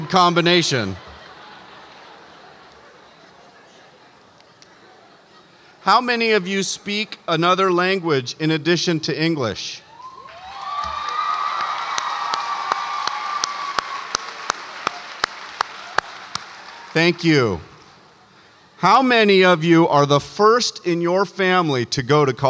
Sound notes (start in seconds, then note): 2.0 audience laughs; 10.0 audience applauds and cheers